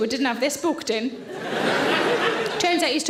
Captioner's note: audience laughing